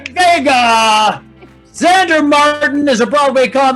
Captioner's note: group yelling excitedly